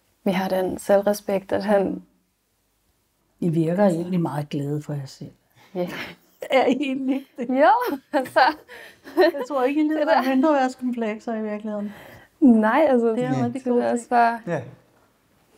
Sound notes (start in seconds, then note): 5.8 laughing; 11.8 laughter